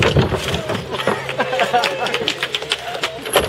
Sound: round of applause

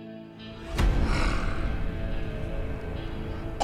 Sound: Tah,Aurak sighs

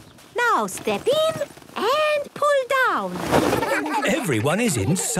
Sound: laughter

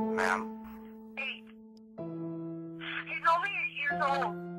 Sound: Kathleen On Phone

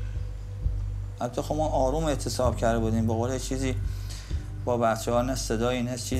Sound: ominous music; speaking foreign language

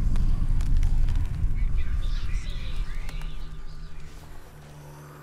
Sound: faint, distorted, echoing

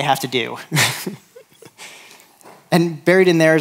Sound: chuckles

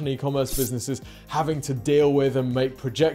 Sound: sword scrapes

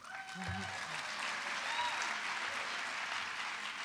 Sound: applause

